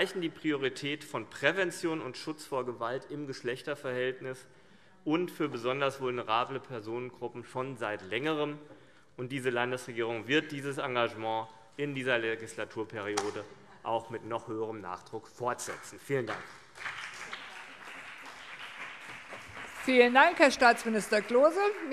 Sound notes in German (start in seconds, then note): 16.1 Beifall CDU und BÜNDNIS 90/DIE GRÜNEN